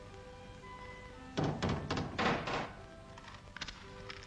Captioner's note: hammer bangs; match strikes